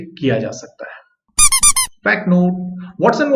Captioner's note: squeaky toy sound